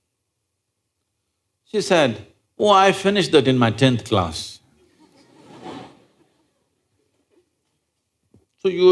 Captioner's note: laughter